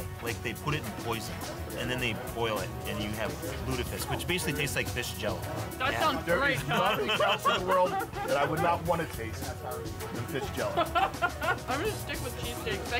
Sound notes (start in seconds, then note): 6.9 laughs; 10.7 laughing